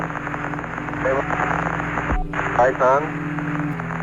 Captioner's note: static